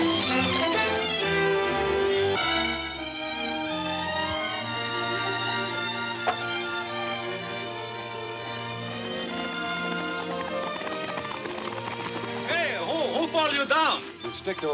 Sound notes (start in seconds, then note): 1.1 gentle orchestral music; 9.1 horse hooves clomping